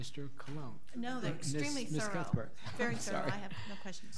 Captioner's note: laughing